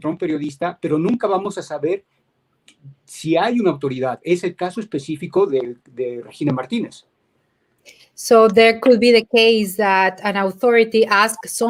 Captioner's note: speaking in Spanish